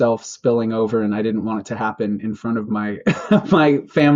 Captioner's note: laughs